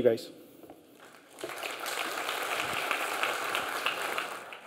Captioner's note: clapping